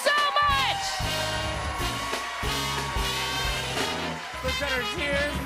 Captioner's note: cheers and applause continue